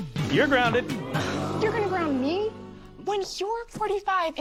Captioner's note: audience: Oooooo!